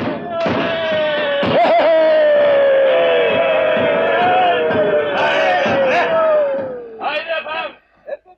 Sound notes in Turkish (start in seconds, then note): 2.3 Silah sesleri, davul zurna, naralar devam ediyor